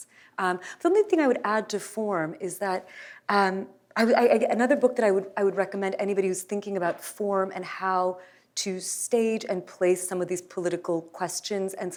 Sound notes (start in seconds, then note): none